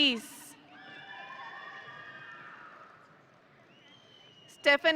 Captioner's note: audience cheering